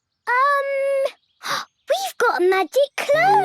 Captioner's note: gasps